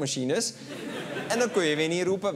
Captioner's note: laughter